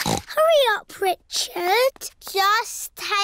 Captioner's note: snorts